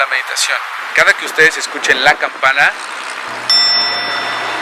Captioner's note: diiing